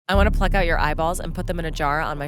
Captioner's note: voiceover